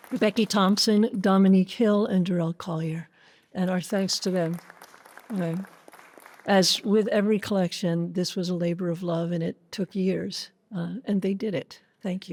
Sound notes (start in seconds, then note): 0.0 applause; 3.6 applause